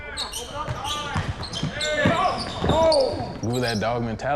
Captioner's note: shoes screeching